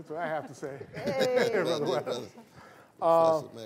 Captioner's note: laughter